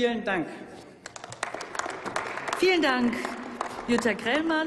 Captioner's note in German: Applaus